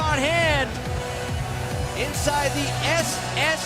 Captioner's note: crowd cheering